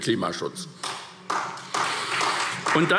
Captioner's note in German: Beifall SPD